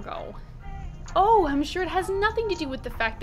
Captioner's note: sarcastic